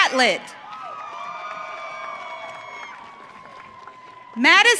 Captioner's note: audience cheering